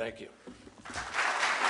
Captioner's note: applause